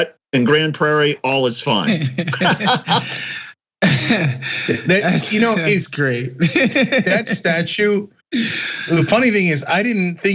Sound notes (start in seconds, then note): 1.8 laugh; 6.2 laugh